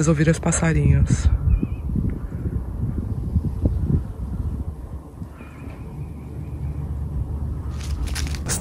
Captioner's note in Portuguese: pássaros cantando e vento soprando